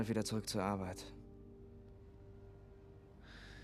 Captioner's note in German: seufzt